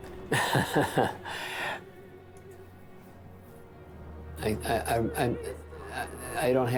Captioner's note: laughs